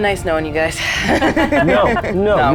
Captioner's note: laughs